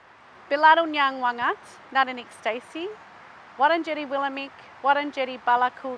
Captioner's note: Speaking in the Woi Wurrung traditional language